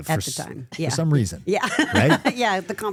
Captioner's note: laughs